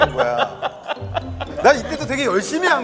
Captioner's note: laughing